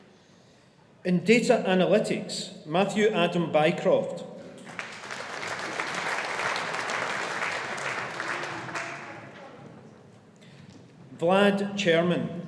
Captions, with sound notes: In Data Analytics, Matthew Adam Bycroft. (AUDIENCE APPLAUDING) Vlad Cherman.